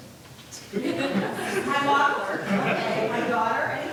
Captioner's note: laughter